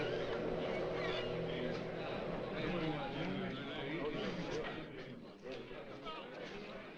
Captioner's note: men Chattering